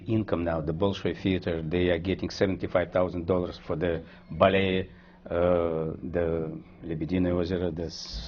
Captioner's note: russian